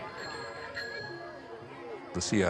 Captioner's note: bicycle bell dings